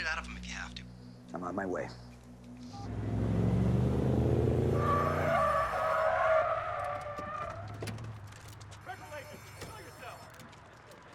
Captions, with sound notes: Bleed it out of him if you have to. I'm on my way. - (tires squeal) - (alarm continues) Special agents! Show yourself!